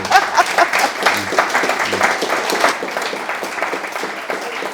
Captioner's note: audience applauding